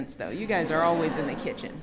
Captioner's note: laughter